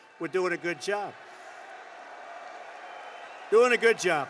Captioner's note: applause